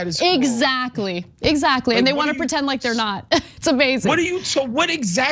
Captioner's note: laugh